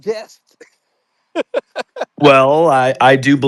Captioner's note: laughing